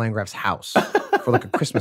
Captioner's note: Glenn laughs